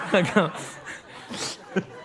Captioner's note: laughter